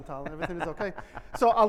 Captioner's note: laughs